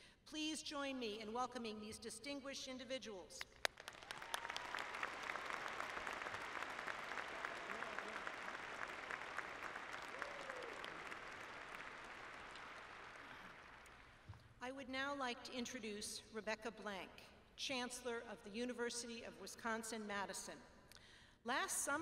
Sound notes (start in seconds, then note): 3.4 applause